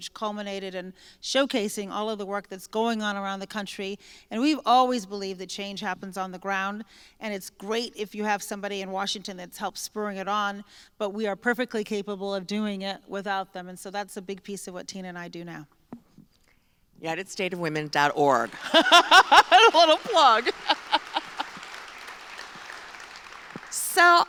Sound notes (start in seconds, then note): 18.5 applause